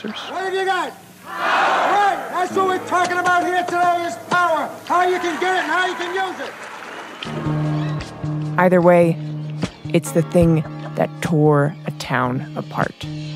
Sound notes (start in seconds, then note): 4.8 applause